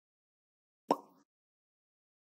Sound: bubble pop

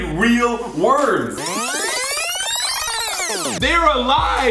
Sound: tape rewinding

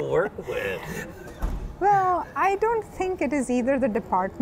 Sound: laughing

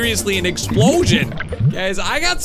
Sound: bubbles gurgle

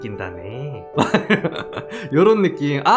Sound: laughs

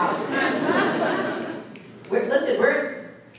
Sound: audience laughing

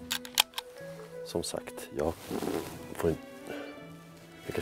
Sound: farts loudly!

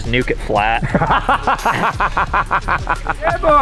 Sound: laughter

